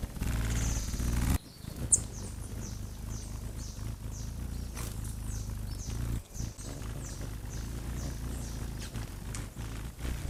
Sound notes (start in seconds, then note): 0.1 birds singing; 1.7 bird's wing flapping